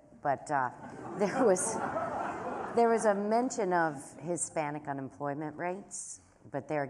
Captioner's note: laughter